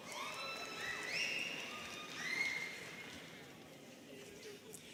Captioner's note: students cheering